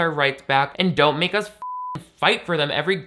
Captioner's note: beep